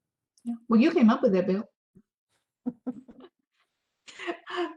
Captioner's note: everyone laughs